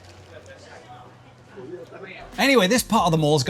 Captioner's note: people chattering